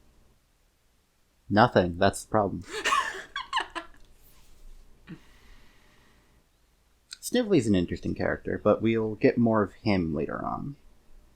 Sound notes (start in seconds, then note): 2.6 more laughter